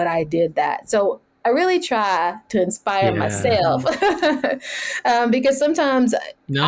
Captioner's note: laughs